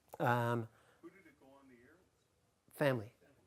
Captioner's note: voiceover